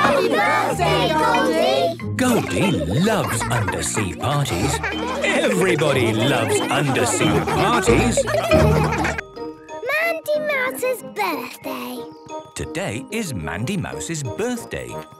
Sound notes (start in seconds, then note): 8.3 laughter